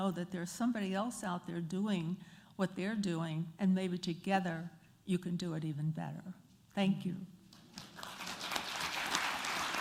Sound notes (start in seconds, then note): 7.6 applause